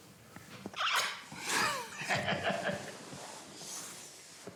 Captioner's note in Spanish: carcajadas